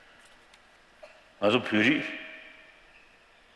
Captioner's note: speaking tibetan